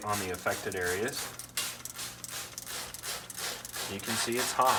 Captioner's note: sparing sounds